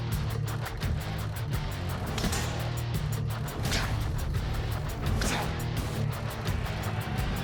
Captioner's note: blow impacts